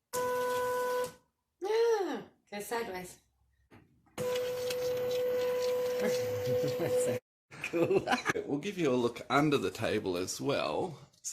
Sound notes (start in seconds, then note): 7.1 laughing